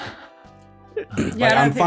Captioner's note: laughter